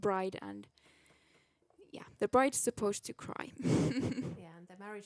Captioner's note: chuckles